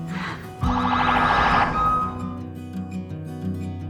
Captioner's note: police sirens